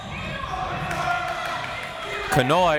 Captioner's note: crowd members shouting